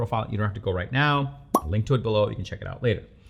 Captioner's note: pop